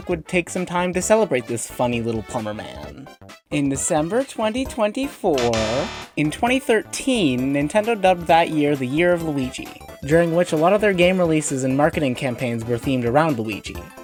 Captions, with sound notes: would take some time to celebrate this funny little plumber man In December 2024! - [LOUD INCORRECT BUZZER] In 2013, Nintendo dubbed that year the "Year of Luigi" during which a lot of their game releases and marketing campaigns were themed around Luigi